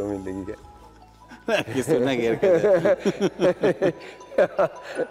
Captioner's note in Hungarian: nevetés hangja